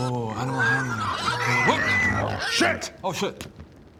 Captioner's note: unhandled boar squeals